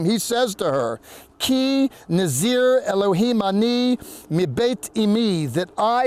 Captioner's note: speaking in Hebrew